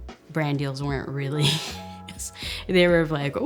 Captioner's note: chuckles